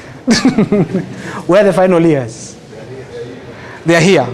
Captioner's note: laughter